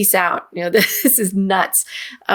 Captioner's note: chuckles